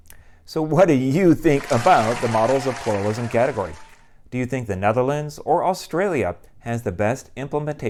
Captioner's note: applause